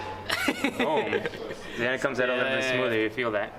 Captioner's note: laughs